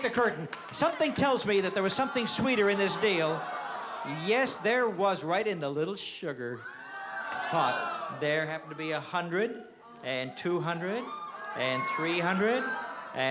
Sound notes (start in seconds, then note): 2.8 crowd groans